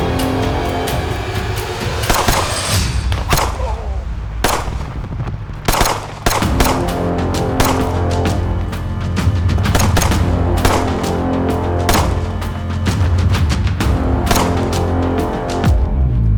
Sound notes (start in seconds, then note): 2.1 gunshot booming; 10.4 suspenseful music continues